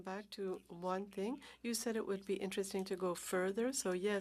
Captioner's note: speaking French